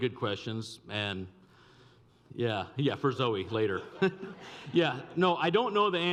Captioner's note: laughs